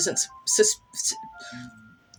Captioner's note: stammer